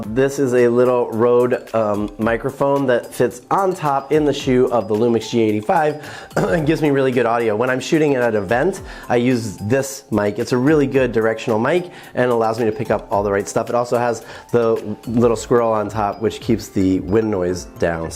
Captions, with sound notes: This is a little Rode microphone that fits on top, in the shoe of the LUMIX G85 (clears throat) and gives me really good audio. When I'm shooting at an event, I use this mic. It's a really good directional mic, and it allows me to pick up all the right stuff. It also has the little squirrel on top, which keeps the wind noise down,